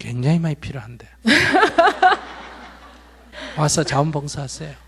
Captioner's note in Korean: 질문자 웃음